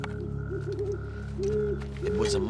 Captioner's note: owl hooting